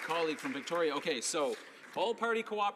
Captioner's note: applause